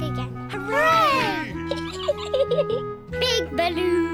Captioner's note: peppa pig giggles